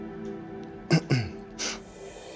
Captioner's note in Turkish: Boğazını temizledi